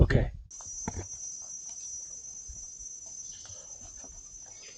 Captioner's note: loud cicadas